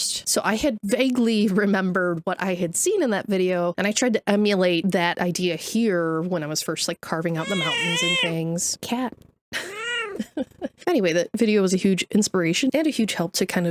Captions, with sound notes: So I had vaguely remembered what I had seen in that video. And I tried to emulate that idea here when I was first like carving out the mountains and things. [cat immitating siren] Cat. [chuckling] Anyway, that video was a huge inspiration and a huge help to